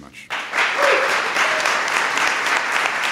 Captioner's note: applause